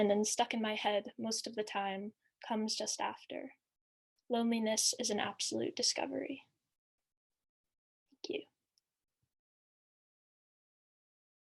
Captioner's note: silence